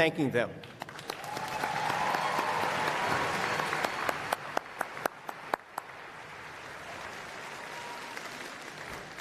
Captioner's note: applause